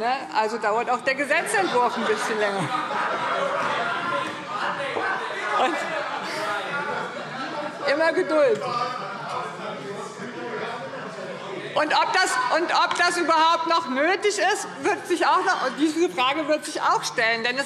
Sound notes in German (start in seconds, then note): 3.2 Lachen und Zurufe SPD, Freie Demokraten und DIE LINKE